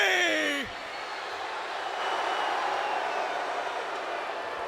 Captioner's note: crowd cheering